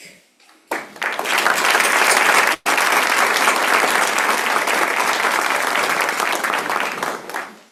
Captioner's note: applause